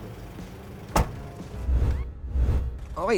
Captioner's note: door thuds